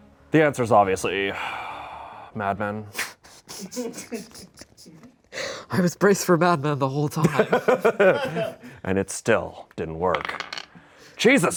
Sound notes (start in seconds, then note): 1.8 sighs; 3.3 laughs; 7.2 laughs